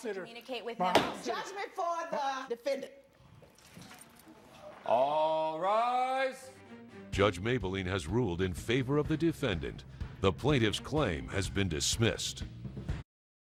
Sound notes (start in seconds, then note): 0.9 slams gavel